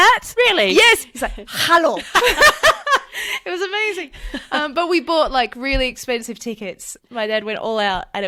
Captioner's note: laughs